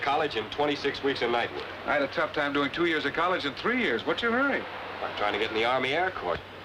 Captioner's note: none